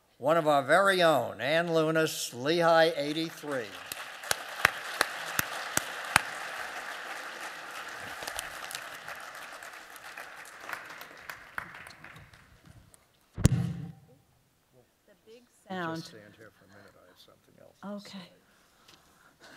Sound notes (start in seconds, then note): 3.7 applause